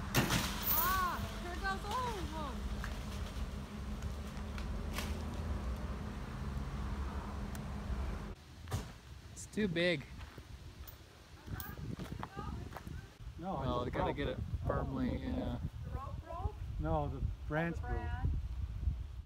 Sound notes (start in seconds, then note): 0.1 breaking of branch; 8.6 slamming door